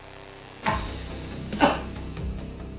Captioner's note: coughing